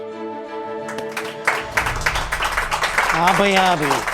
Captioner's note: applause